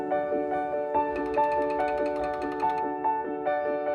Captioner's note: object tapping softly; mellow piano music continues